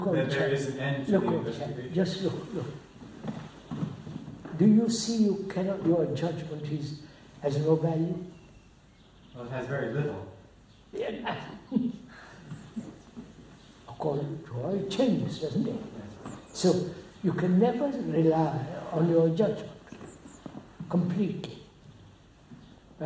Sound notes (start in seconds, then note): 10.9 laughs